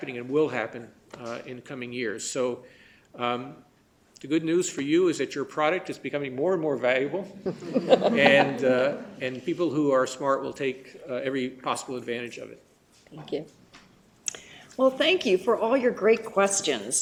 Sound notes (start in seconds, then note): 7.4 laughter